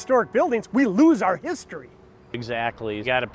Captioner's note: bells toll